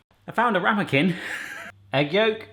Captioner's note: chuckling